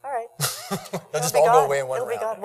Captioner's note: laughs